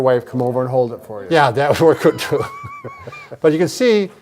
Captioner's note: both chuckling